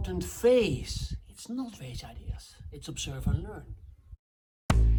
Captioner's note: whispering